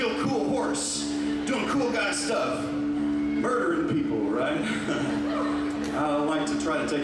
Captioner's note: chuckles